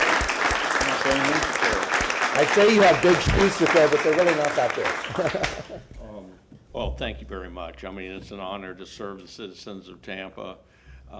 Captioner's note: applause